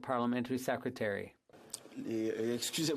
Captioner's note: speaking French